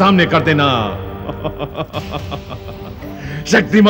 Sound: evil Laugh

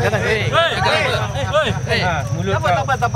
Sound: police shouting

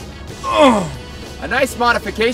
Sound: grunting

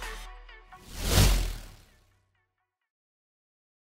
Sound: text whooshing

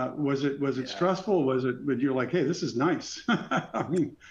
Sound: laughs

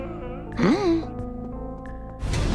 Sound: crying; grunt

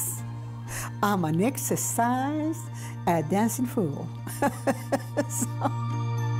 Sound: laughs; gentle music

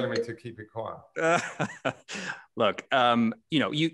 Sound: laughter

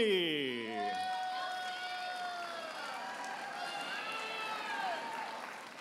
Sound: audience applauding and cheering

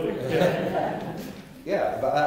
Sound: laughter

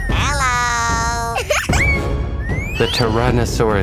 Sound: giggles

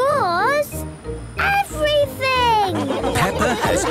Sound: laughing

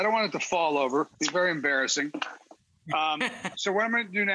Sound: laughing

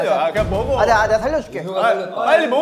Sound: confident

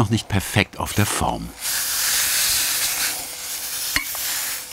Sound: hissing sound

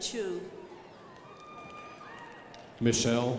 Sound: crowd applauding

